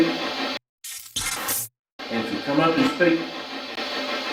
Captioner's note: buzzing